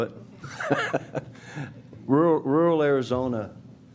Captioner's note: chuckles